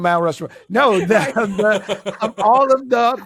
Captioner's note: laughter